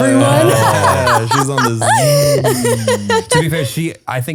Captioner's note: laughs